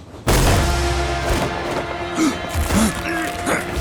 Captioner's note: groaning